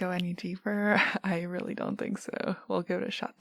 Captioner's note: laughs